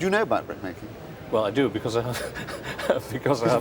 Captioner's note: laughs